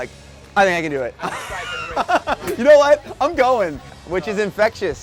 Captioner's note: laughs